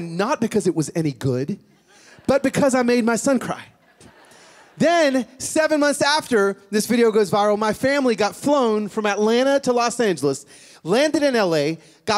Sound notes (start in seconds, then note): 3.8 laughter